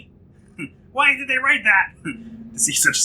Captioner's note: chuckles